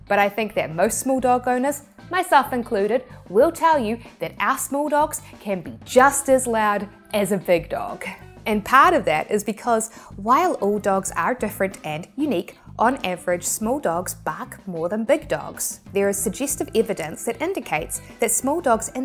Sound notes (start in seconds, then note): 7.7 chuckling